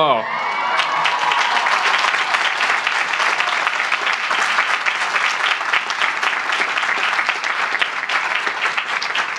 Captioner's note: applause